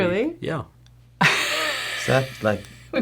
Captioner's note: laughter